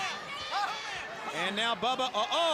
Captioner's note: crowd chatter